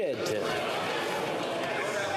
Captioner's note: speaking French